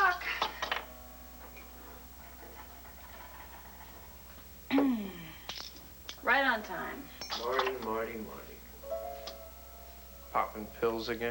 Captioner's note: church bell chimes